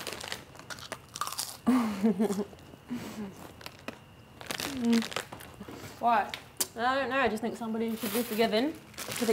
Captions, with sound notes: (giggles) - What? - I don't know, I just think somebody should be forgiven,